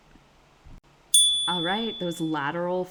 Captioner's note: chime